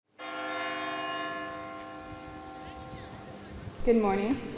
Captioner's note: church bell tolling